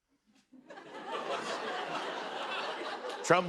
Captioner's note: laughter